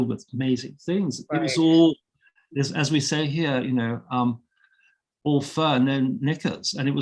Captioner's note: chuckling